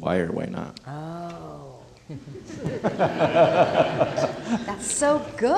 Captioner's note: crowd laughing